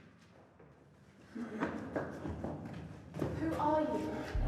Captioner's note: footsteps running